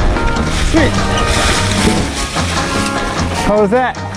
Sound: leaves crunching

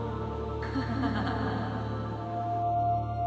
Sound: sinister Chuckle

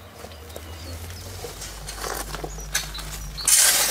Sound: birds chirping, crunching

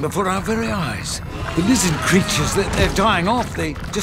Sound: lizard roars

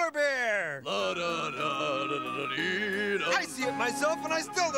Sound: Jake humming

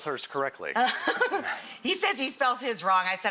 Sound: laughing

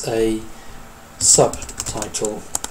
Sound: keyboard strokes

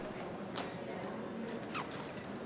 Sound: kisses

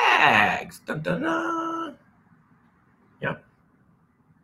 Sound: mimics music

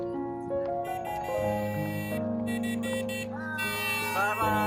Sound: horn Sound

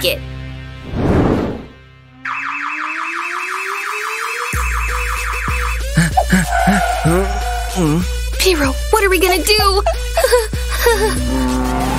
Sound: heavy breathing

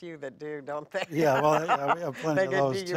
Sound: laughs

